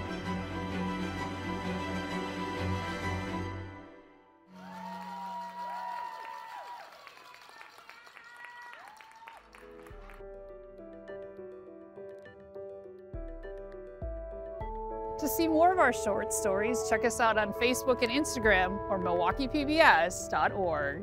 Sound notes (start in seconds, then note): 0.0 bright upbeat music; 8.1 audience applauding; 13.2 bright upbeat music